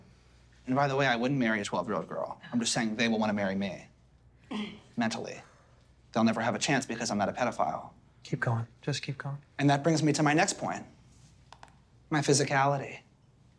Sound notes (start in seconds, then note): 4.5 Kelsey clears throat